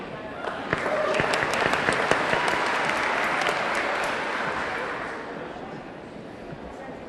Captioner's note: audience cheering; audience clapping